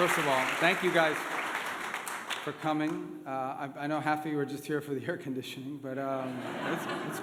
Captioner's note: applause; laughter